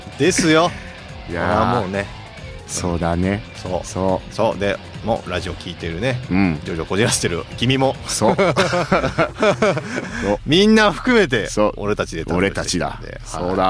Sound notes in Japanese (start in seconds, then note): 0.3 笑い; 8.1 笑い